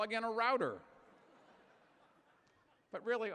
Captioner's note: chuckling